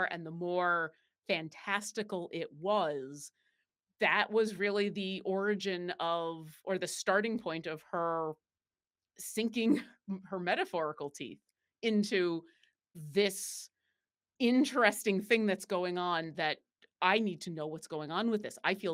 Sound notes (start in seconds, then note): none